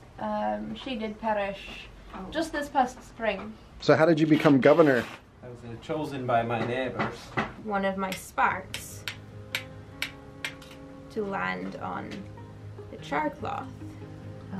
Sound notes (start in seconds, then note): 8.9 rocks hitting each other